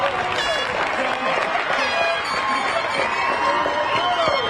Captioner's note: horn tooting